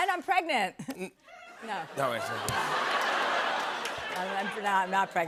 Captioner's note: laughter